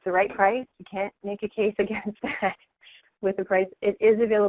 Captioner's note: laughs